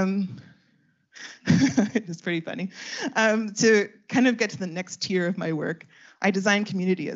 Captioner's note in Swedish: Skratt